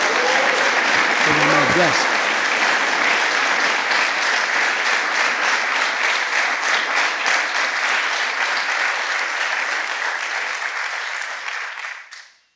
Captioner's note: applause